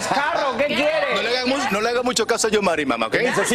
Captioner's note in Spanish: risas